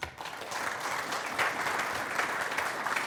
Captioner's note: applause